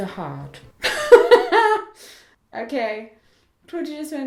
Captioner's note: laughs